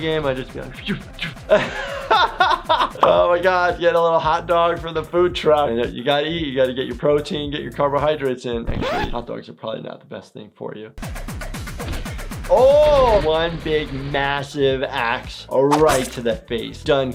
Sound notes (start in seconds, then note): 0.6 imitates swooshing; 0.7 laughing; 11.0 techno music; 11.6 gun shots